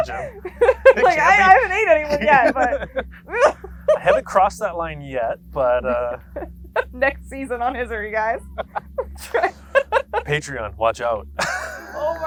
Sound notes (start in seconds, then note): 0.0 both laughing; 9.4 laughs